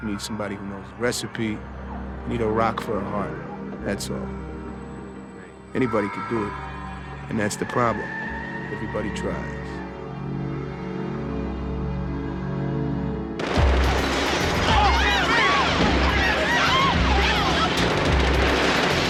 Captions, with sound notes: You need somebody who knows the recipe. You need a rock for a heart. That's all. Anybody can do it. And that's the problem. Everybody tries. (gunshots ringing) (people screaming)